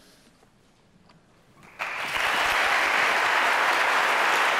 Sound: applause

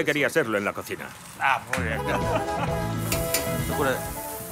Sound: laughs

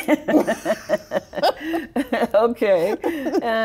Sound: both laugh

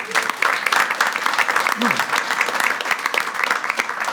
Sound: everyone claps

